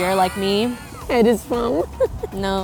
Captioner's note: laughing